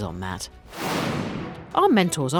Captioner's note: air whooshing